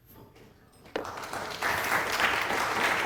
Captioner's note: applause